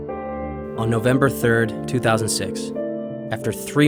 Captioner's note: voiceover